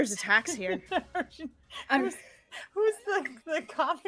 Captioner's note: laughing